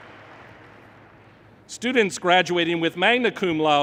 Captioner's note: thank you.APPLAUSE